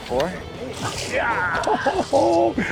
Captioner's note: laughs; groans